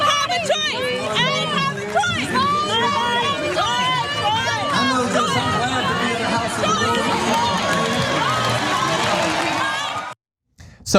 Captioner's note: applause